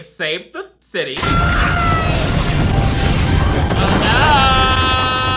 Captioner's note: Cheryl screams